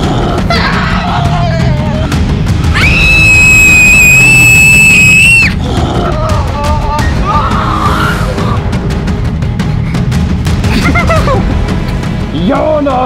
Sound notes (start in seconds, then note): 0.0 werewolf snarls; 0.2 Shaggy screams; 2.7 Scooby Doo screams; 10.6 Scooby Doo and Shaggy laughing